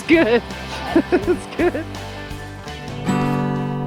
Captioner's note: laughs